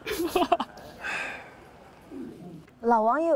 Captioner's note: sigh